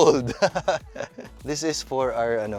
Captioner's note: laughs